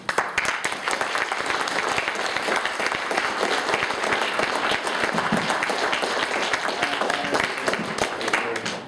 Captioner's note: applause